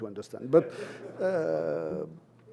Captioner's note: laughter